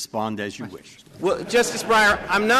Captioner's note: laughter